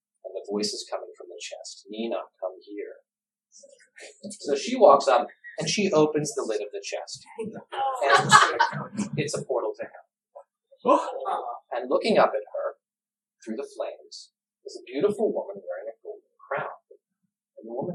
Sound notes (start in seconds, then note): 8.0 nervous laughter; 10.8 gasps